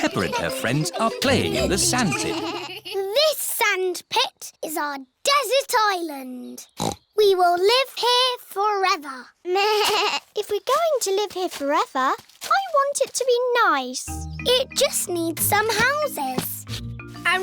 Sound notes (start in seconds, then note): 6.8 snorts